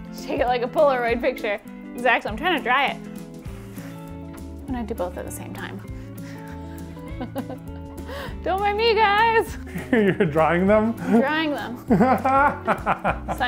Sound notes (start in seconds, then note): 3.4 blows; 7.0 laughs; 11.9 laughs